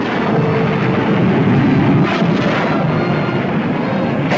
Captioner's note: plane whooshing